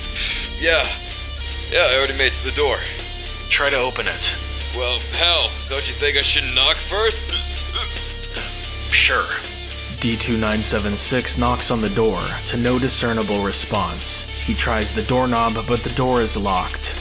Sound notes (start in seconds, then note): 7.7 he hiccups